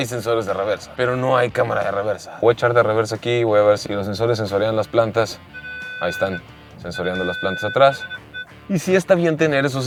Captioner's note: sensor beeping